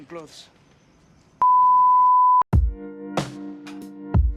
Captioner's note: beep; R&B music